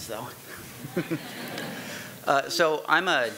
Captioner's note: audience laughing